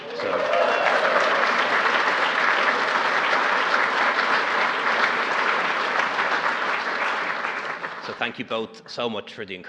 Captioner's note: applause